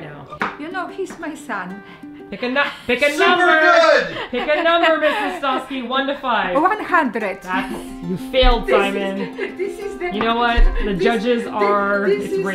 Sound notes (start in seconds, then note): 2.5 giggle; 7.5 mom muttering in the background adorably